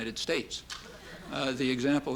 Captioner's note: laughter